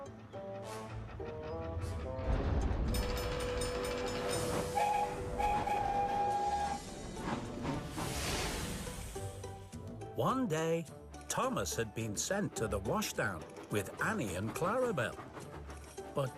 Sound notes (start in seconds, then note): 2.8 crossing Bells Ding; 4.7 toot-Toot-Toot!; 6.5 chug-Chug-Chug